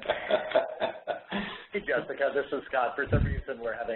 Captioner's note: laughs